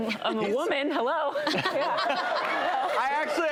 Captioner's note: laughing